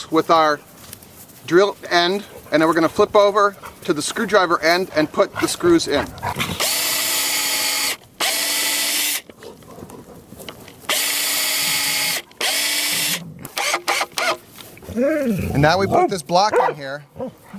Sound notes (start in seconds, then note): 8.2 drill whirring; 14.8 dogs growling